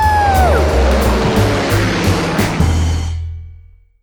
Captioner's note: airplane whooshing